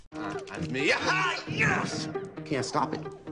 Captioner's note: excited yelling